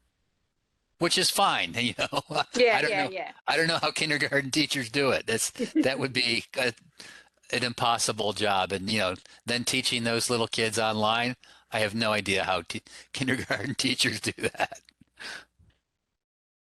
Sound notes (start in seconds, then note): 1.7 chuckles